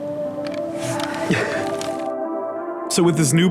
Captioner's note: laughter